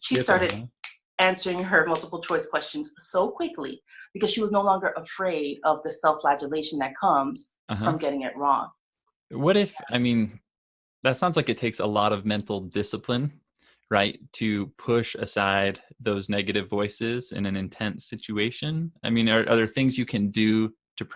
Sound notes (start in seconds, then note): 3.0 snapping fingers